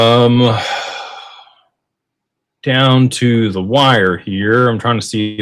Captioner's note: sighs and gasps